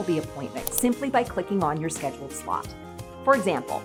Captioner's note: mouse Click